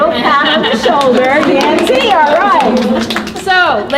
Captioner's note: participants applauding